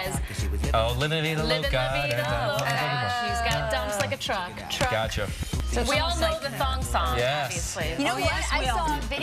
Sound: clapping and music

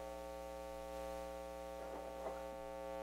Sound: electrical hum

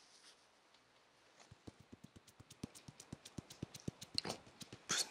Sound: tok tok tok tok

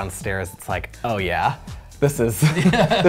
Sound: laughs

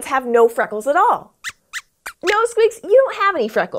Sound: squeaks squeaks

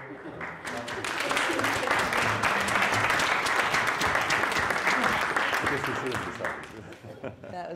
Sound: audience applauding

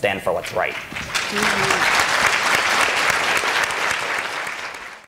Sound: applause

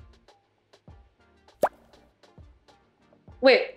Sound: pop

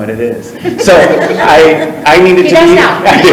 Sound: people chuckle

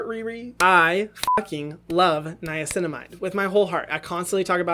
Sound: beep

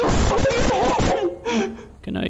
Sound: breath

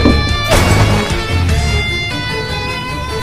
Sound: crash

